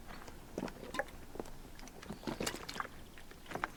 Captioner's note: birds chirping; gas sloshing